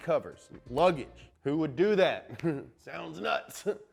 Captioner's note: laughs